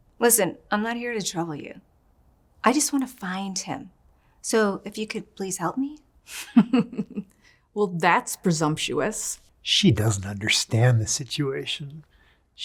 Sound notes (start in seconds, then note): 6.4 chuckles